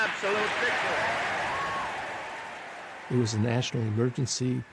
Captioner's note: audience applauds and cheers